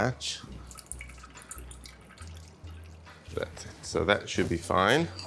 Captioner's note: water dripping